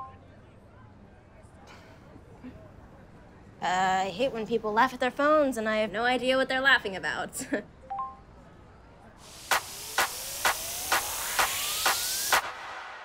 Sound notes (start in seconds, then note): 1.5 chuckles; 7.4 phone chimes